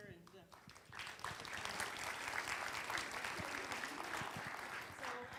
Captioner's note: applause